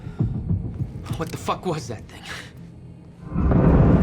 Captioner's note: breathing heavily